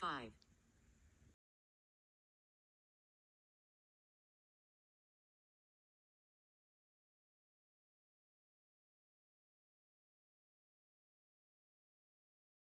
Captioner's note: silent